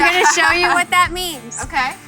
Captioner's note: laughs